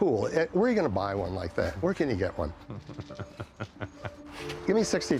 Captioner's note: chuckles